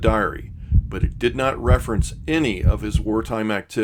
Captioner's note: heart thumping